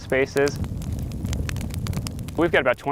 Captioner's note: fire crackles